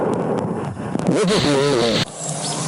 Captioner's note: sound distortion